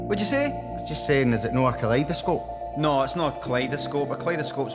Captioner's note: none